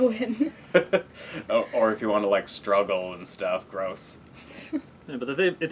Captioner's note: laugh